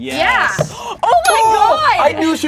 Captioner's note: bell cling sound